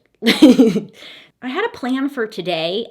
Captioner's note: laughing